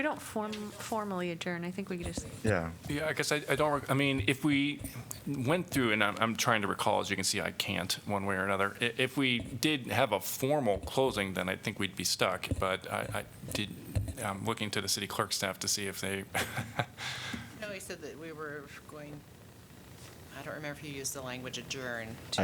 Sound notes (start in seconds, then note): 16.3 laughter